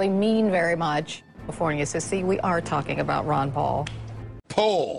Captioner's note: condescending tone